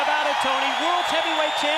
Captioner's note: crowd cheering